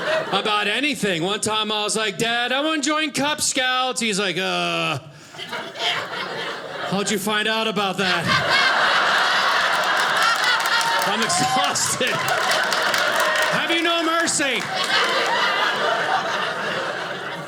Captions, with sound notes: about anything. One time I was like, Dad, I want to join Cub Scouts. He's like, "Ugh, "how'd you find out about that? (audience laughing) "I'm exhausted. "Have you no mercy?" (audience laughing)